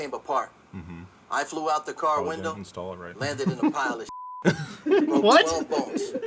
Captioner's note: beep